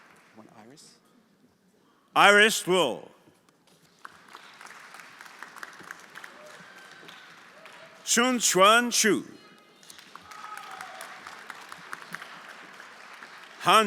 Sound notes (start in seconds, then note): 3.9 everyone applauding; 9.8 everyone applauding